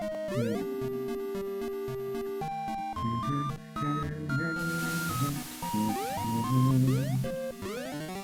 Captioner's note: humming along